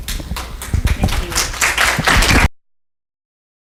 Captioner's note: applause